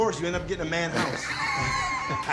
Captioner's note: laughs